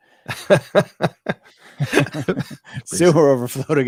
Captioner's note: laughing